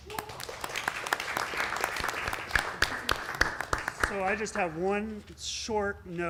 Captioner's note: applause